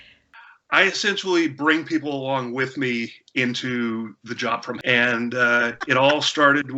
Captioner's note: beep!; laughter